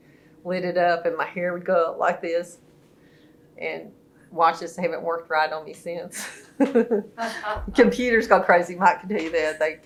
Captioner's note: laughter